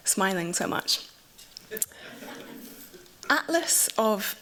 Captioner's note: laughter